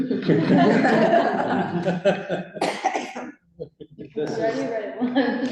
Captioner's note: laughter